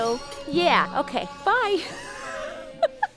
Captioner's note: laughs